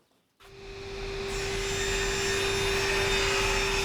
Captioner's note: the saw whirs